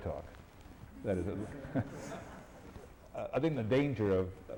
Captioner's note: laughter